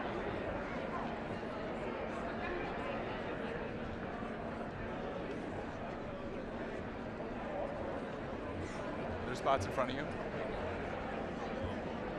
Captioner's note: indistinct chatter